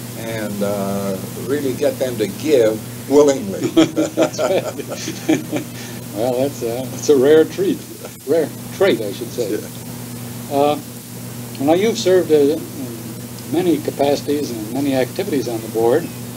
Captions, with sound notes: and "uh" really get them to give Willingly. (Laughter) That's right. Well, that's a rare treat-- rare trait I should say. "Uh" Now you've served in many capacities and many activities on the board.